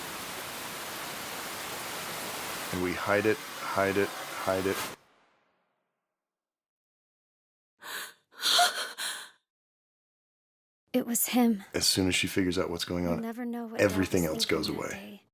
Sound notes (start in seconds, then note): 5.3 abrupt silence; 8.4 gasps